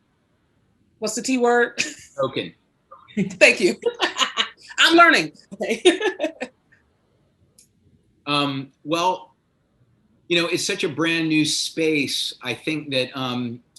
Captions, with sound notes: What's the T word? - Token. - Thank you (laughs). I'm learning. - Well it's such a brand new space. I think that